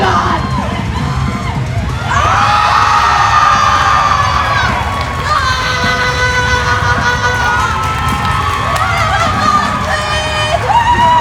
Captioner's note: cheering